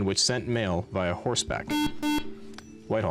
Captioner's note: beep